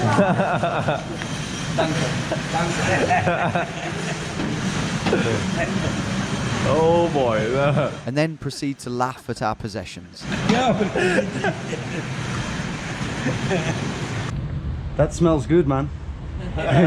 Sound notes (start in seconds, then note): 0.2 laughing; 1.7 and stranger laughing; 10.3 and stranger laughing; 16.4 and pedestrian laughing